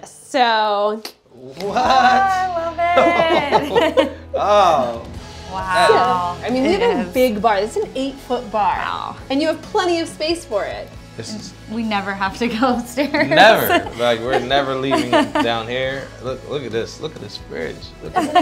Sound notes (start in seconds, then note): 2.9 laughter